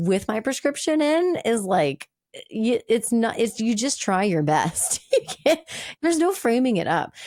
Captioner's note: laughing